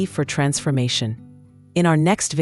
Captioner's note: pause